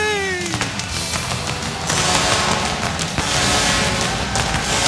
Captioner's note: popping fireworks